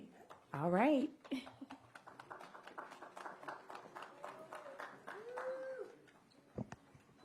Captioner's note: applause